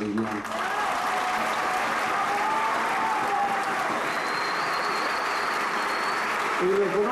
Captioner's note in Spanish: Aplausos